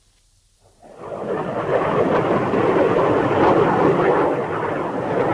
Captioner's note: plane engines roaring